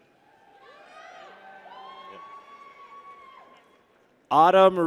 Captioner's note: people cheer